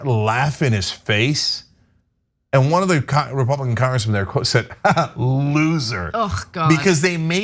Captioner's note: laugh